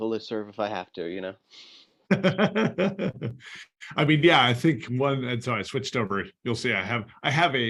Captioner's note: laughter